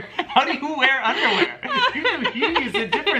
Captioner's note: both laughing; laughing